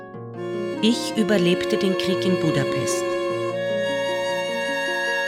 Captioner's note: German speaking continues